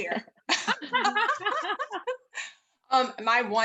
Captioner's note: panelists laughing